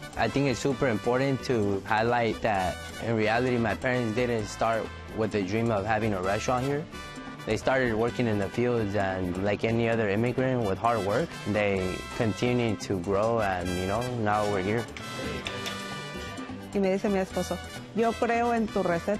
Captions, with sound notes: -I think it's super important to highlight that in reality, my parents didn't start with the dream of having a restaurant here. They started working in the fields, and like any other immigrant with hard work, they continued to grow. And, you know, now we're here. -[ Speaking Spanish ]